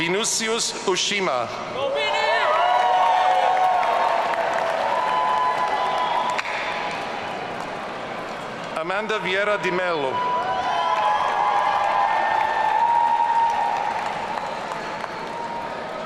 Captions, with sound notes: Vinícius Ushima. (audience cheering) Amanda Vieira de Melo. (audience cheering)